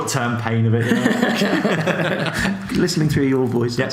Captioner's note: laughs